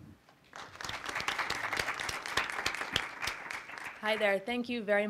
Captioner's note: crowd applauding